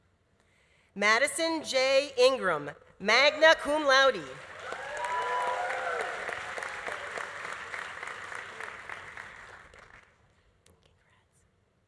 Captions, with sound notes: Madison J. Ingram, magna cum laude. (audience applauding) (audience cheering) Congrats.